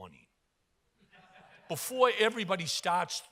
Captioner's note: audience laughs